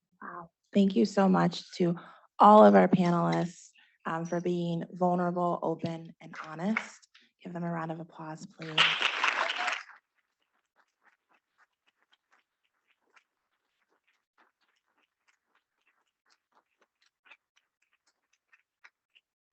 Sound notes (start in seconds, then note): 8.6 students clapping